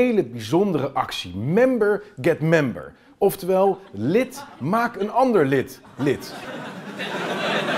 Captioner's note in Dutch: gelach